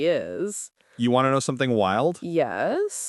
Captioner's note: voice dropping, more serious